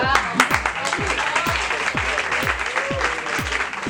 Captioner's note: applause